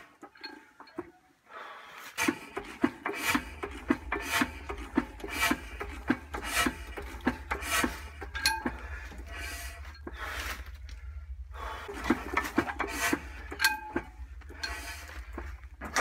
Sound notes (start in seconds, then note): 0.0 clunka clunka clunka clunka ting whoosh woosh; 4.2 clunka ting whoosh woosh; 11.8 heavy breathing